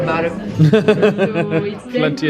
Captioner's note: laughs